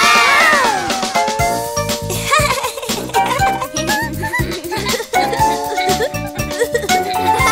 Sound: laughts

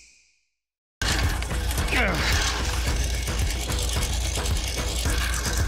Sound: lawnmower noise and grunting

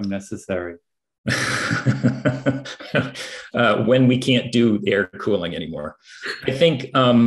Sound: laughter

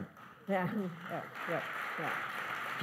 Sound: applause

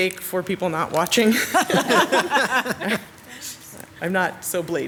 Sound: council members laugh

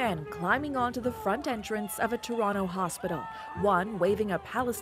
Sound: chanting

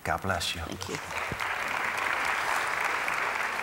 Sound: applause

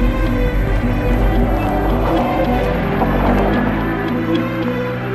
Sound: engine whirring

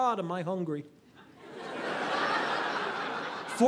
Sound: audience laughing

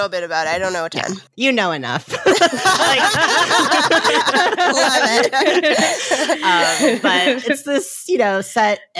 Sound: all laughing

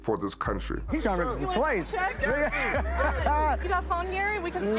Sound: laughing

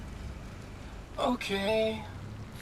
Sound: in robotic voice

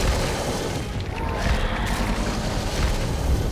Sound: monsters growling

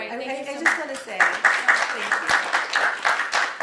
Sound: applause

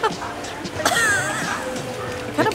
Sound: cough

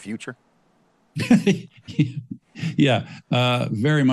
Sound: laughs

